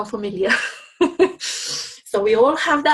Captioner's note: instructor laughing